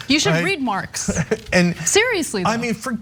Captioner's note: laugh